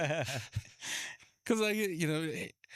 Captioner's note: both laughing